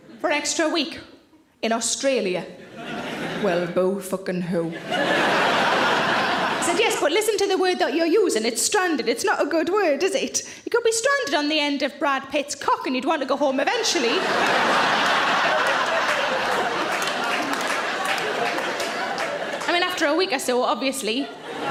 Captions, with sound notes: for an extra week in Australia? Well, boo fuckin' hoo. (audience laughs) - I said yes, but listen to the word that you're using. It's stranded. It's not a good word, is it? You could be stranded on the end of Brad Pitt's cock, and you'd wanna go home eventually. (audience laughing) (audience claps) I mean, after a week or so, obviously.